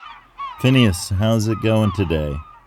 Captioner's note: sea birds, port sounds